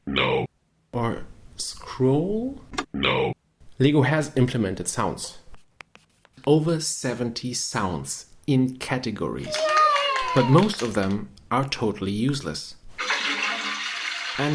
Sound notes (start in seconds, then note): 0.1 robotic voice; 12.9 toilet flushing